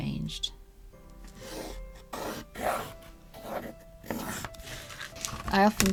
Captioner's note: pencil noises